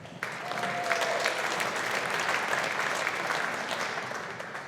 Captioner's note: audience applauding